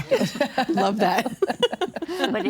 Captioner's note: all laughing